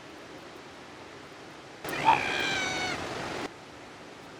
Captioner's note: A young seal cries